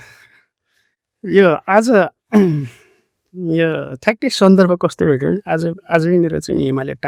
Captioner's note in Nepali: घाँटी सफा गरेको आवाज